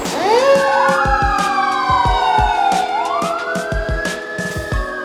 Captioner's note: sirens